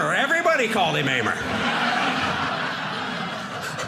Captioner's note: audience laughing